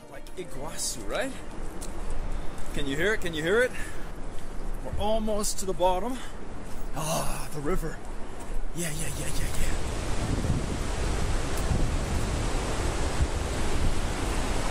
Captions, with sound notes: Like iquacu, right? Can you hear it? Can you hear it? We're almost to the bottom. Ah, the river. Yeah, yeah, yeah, yeah, yeah. (water whooshing)